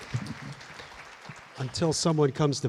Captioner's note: applause